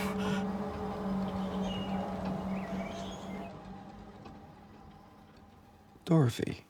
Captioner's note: birds chirping; pensive music continues